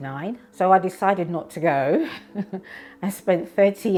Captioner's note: giggles